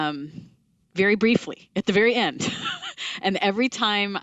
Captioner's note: laughs